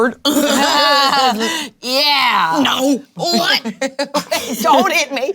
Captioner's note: players laughing